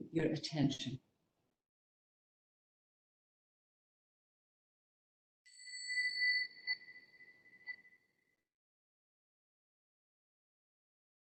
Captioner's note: bell rings